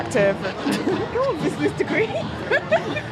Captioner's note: laughing